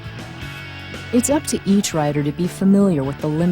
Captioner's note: voiceover